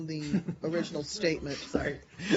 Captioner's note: laughter